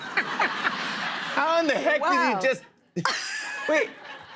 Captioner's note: laughter; laughs